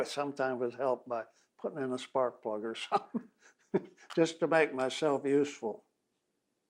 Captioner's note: laughs